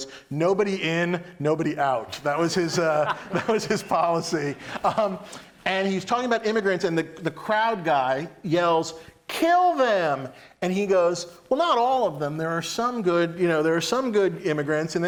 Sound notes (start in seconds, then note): 2.4 all laughing